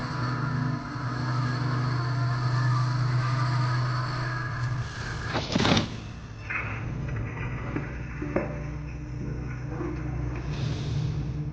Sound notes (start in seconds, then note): 3.8 thump!